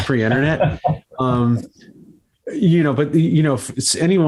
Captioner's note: host laughs